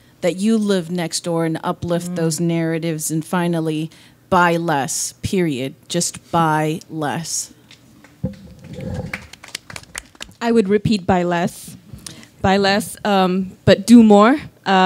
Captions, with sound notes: that you live next door and uplift those narratives and finally, buy less period, just buy less. (audience claps) - I would repeat, buy less, buy less, but do more.